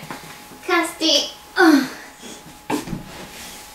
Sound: groans from lifting up a 17kg+ pupper

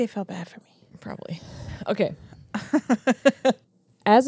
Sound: laughs

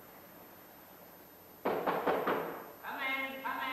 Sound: knocking

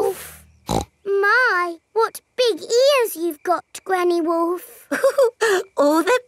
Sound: snorts; chuckles

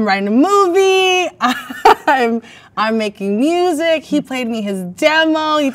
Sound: laughs

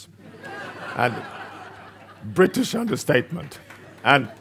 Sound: audience laughs

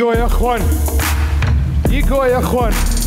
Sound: foreign speaking

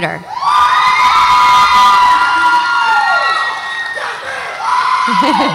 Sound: audience applauds and cheers

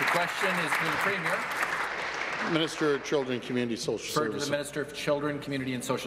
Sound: applause

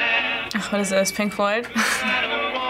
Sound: chuckles

